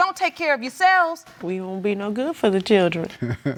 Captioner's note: chuckles